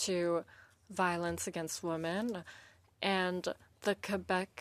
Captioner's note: speaking French